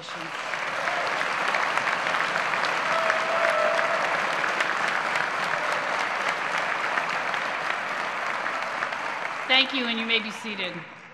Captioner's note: applause